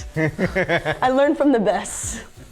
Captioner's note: laughing